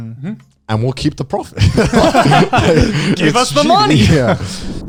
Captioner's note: laughs